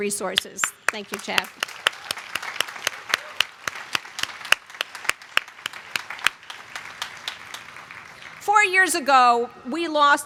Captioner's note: applause